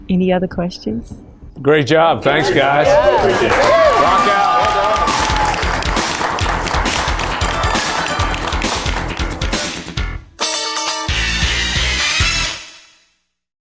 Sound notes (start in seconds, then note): 2.3 crowd applauding; 8.8 upbeat music